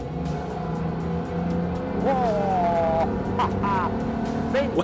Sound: boat engine revs

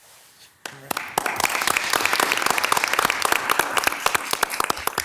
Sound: members clapping

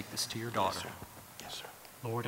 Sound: whispering

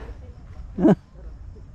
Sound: laugh

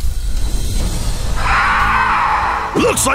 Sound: snarling

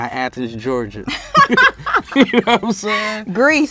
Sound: both laugh

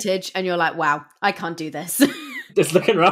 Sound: laughs

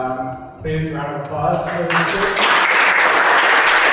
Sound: applause

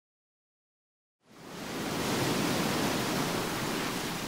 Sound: water sloshing

